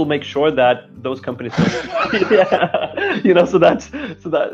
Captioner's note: both laughing